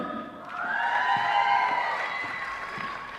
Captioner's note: applause